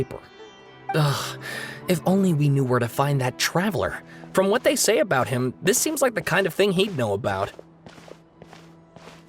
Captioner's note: sigh